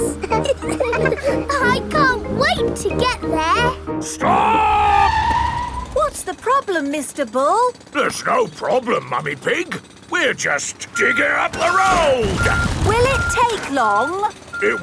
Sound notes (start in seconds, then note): 0.0 all laughing; 4.2 tires screeching